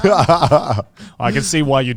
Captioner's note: laughs